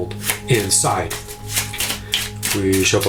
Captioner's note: cards slapping